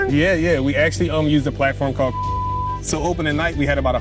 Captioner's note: beep